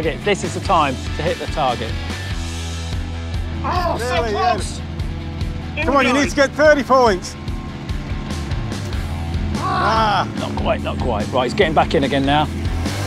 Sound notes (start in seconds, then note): 9.5 groan; 12.8 motor accelerating